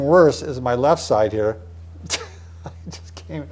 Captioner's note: laughing